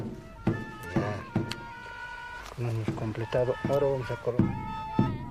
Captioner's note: speaking in foreign language; playing instruments